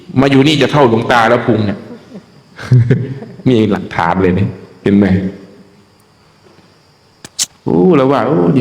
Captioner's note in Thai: เสียงหัวเราะ